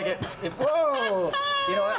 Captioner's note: coughs